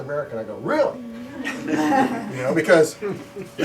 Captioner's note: laughter